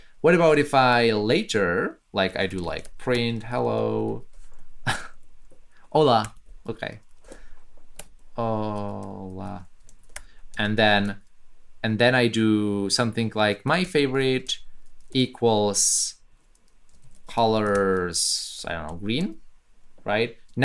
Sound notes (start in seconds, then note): 4.8 chuckles